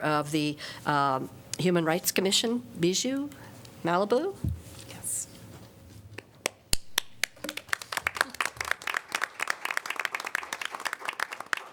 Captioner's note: applause